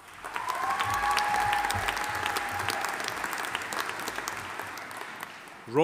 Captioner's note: audience cheering; audience applauding